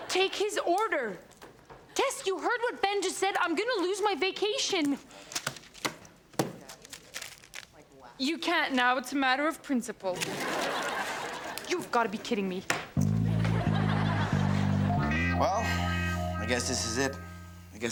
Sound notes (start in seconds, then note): 10.2 audience laughs; 13.0 guitar music